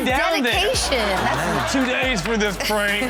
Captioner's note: audience laughs